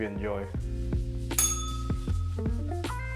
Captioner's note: bell rings